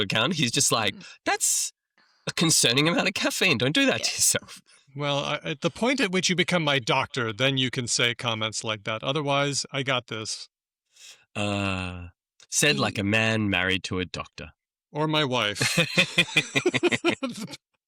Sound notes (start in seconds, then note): 15.5 laughs; 15.5 laughter